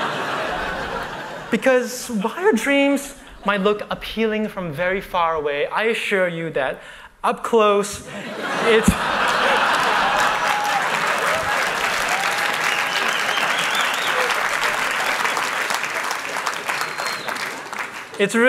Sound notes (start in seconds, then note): 0.0 laughter; 11.9 applause; 14.1 cheering